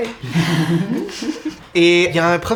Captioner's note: giggling